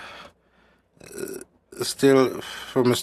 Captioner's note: speaking French